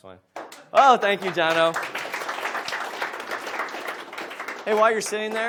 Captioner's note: audience applauds